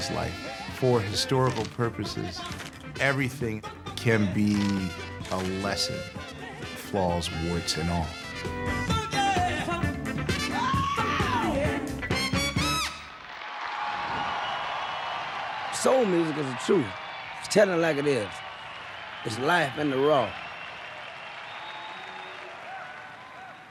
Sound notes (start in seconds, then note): 10.6 screams; 12.7 cheers and applause; 20.7 cheers and applause